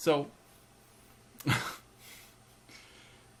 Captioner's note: laugh